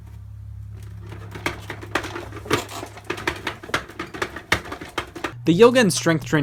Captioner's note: fan clattering